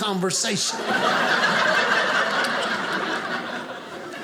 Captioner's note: audience laughing